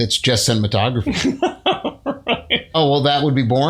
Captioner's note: laughter